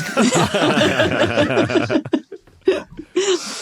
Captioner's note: group laughing